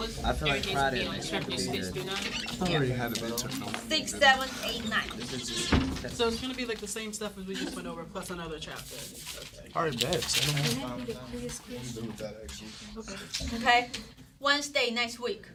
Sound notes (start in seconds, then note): 0.0 students murmur; 7.2 students murmur